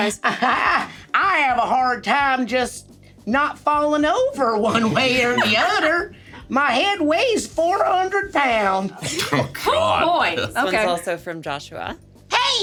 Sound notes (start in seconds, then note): 0.2 laughs; 4.7 SungWon and Sarah laughing; 9.0 chuckles